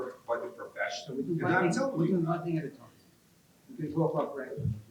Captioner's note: participants talking in unison